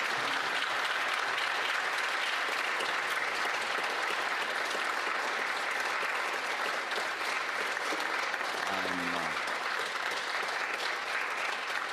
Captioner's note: applause